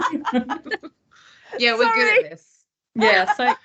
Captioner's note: laughs